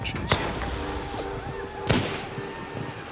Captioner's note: gunfire